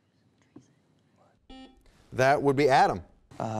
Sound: buzzer beeping

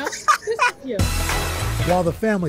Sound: laughter

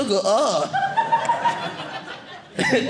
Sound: audience laughing

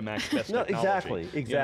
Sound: laughs

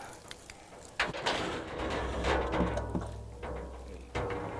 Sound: bear rattling trap

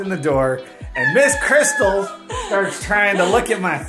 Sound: yelling

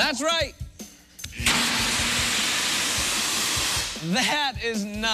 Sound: alarm sounds

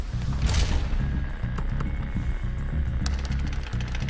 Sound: door shuts; Static

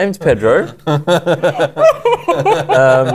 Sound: laughter

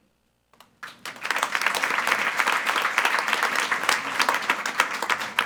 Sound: attendees applauding

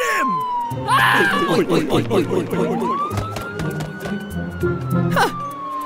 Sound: policeman sounds

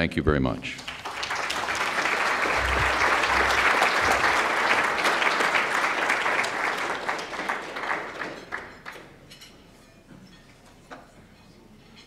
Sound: applause

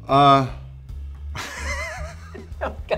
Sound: laughter

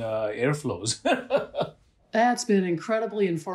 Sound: laughter

